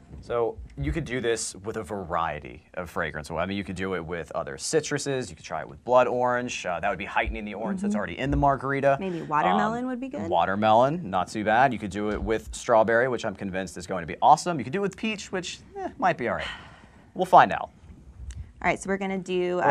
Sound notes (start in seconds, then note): 16.8 sighing